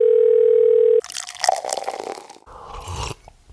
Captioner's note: phone ringing; liquid pouring; person slurping and swallowing